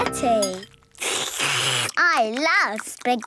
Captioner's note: slurping